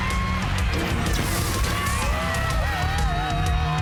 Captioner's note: cheering